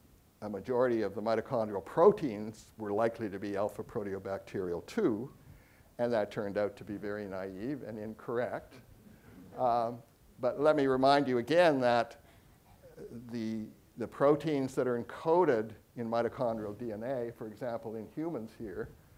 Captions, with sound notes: a majority of the mitochondrial proteins were likely to be alphaproteobacterial, too, and that turned out to be very naive and incorrect. (audience chuckling) But let me remind you, again, that the proteins that are encoded in mitochondrial DNA, for example, in humans here,